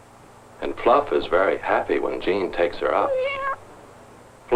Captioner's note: meowing